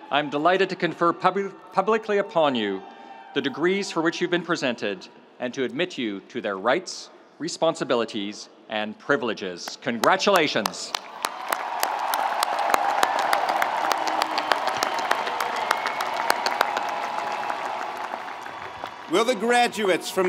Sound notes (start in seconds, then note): 10.0 audience applauding; 11.0 audience cheering